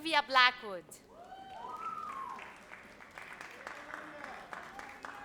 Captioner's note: audience applauds